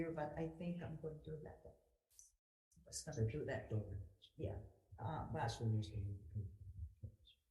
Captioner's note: speaking quietly with assistant